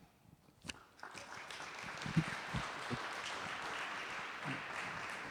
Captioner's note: audience applauding